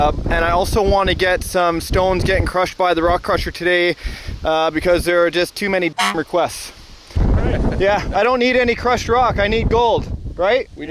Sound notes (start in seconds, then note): 6.0 horn honks